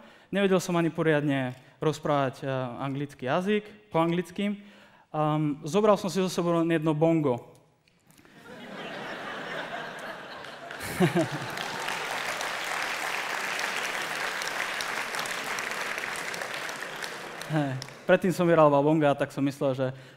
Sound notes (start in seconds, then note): 8.3 laughter; 11.3 applause